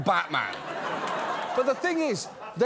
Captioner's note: laughter